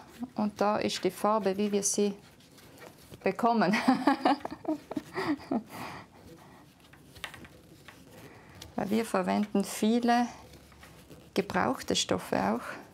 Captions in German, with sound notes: und da ist die Farbe, wie wir sie bekommen. (Sie lacht.) Wir verwenden viele ... gebrauchte Stoffe auch,